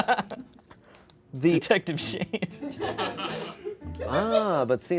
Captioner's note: laughter